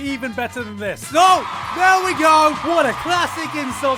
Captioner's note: cheers and applause